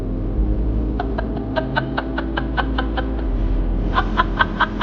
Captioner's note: Carolyn chuckling